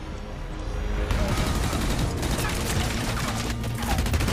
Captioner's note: action music playing; gunfire